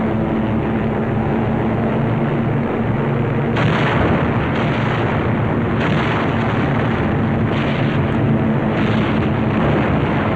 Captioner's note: sounds of aircraft engines and explosions